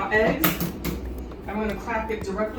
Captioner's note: eggs cracking